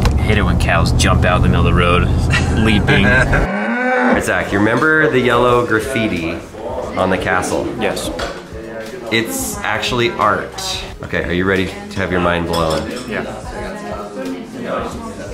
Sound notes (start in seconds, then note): 3.0 moos